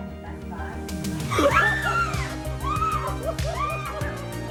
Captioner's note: screams